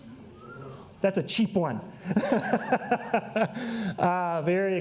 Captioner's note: laughs